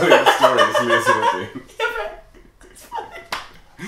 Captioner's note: laughing